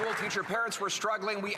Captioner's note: applause